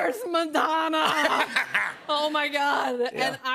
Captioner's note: laughter